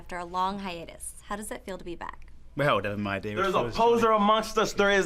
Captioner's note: none